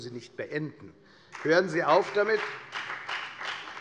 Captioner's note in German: Beifall bei der FDP